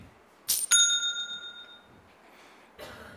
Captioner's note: ding